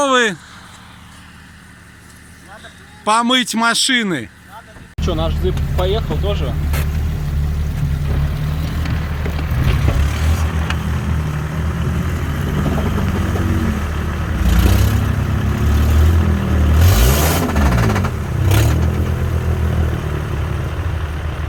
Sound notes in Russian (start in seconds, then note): 6.4 Звук рёва мотора